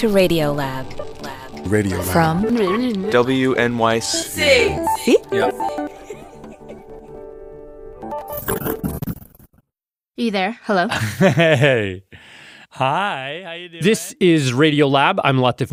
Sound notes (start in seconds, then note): 8.1 laughs